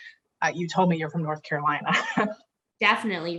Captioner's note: chuckles